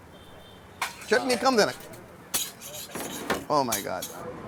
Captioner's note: speaking in Hindi